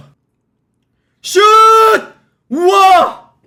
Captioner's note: shouting